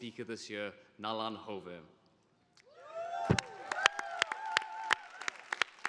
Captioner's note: audience applauding